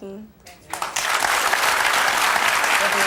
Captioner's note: applause